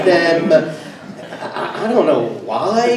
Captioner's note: everyone laughs